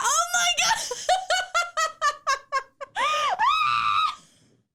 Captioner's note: laughing hysterically